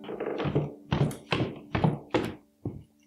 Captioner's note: footsteps on stairs